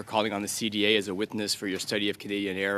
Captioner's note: speaking french